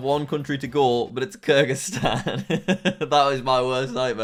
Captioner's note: laughs